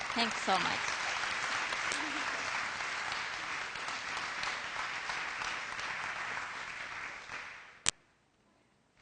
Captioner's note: applause; silence